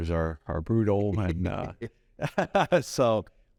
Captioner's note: both laugh